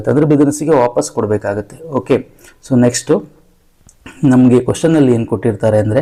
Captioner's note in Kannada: ಗಂಟಲು ಸರಿಮಾಡಿಕೊಳ್ಳುವಿಕೆ